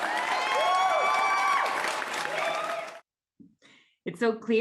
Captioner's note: applause and cheers